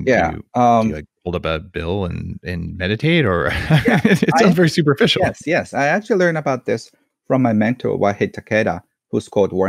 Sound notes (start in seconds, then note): 2.7 laughs